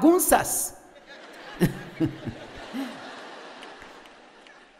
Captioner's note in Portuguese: audiência ri